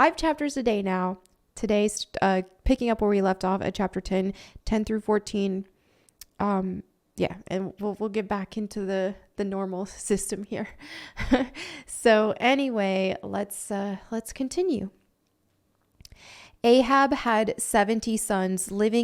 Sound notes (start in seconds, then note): 12.8 laughs